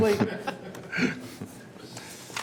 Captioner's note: laughter